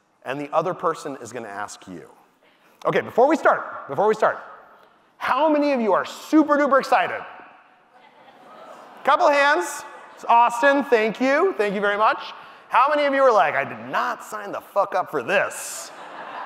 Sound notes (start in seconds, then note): 8.2 audience cheers; 15.8 audience laughing